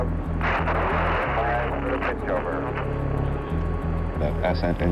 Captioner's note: radio static crackles